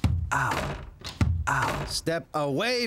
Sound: pulling door

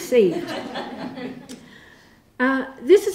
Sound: laughter

